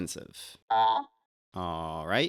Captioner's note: Larry AI sounds